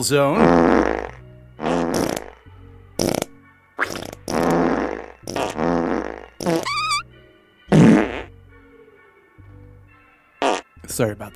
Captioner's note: long series of fart sound effects